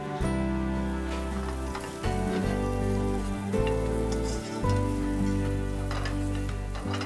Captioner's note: gentle music; food sizzling